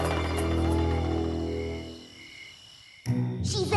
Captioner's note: insects chirping